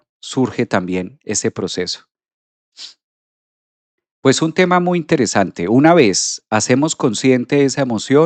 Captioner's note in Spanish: resoplido